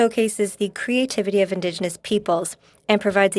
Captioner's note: speaking French